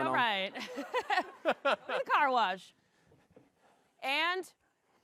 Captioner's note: laughs